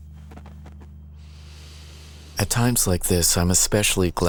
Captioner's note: breathing deeply